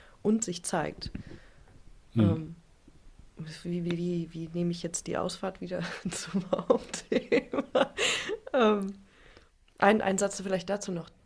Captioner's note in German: gelächter